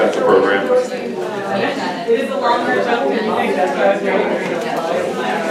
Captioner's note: people chattering